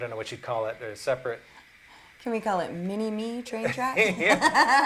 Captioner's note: laughter